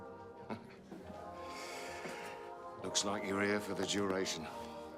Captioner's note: chuckles